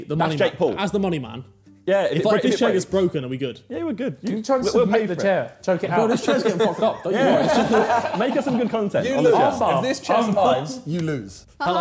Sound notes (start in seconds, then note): 7.7 laughing